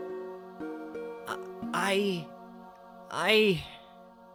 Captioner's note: holding back tears